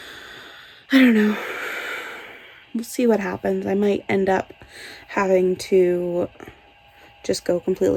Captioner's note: sighs